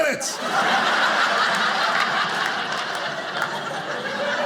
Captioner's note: audience laughing